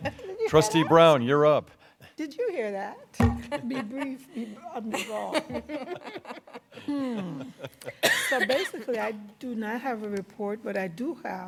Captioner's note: laughter